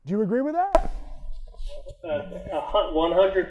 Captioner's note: object popping